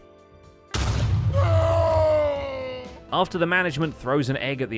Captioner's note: explosion